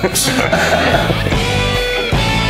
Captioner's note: laughing